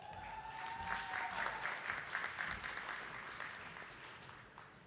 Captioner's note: attendees clapping